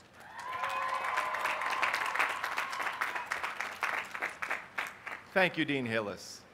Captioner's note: applause